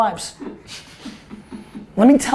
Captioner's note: group laughter